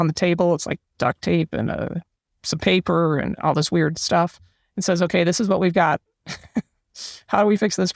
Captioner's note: laugh